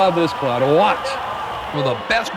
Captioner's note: voiceover